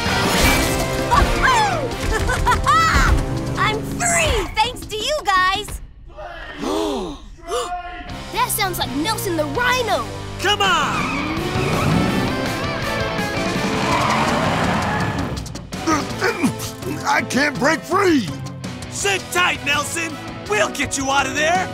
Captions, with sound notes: Woo-hoo! [laughing] I'm free, thanks to you guys! [distant shouting] Blaze! Stripes! That sounds like Nelson the Rhino! Come on! [grunting] I can't break free! Sit tight, Nelson, we'll get you out of there!